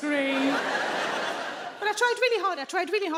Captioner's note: audience laughing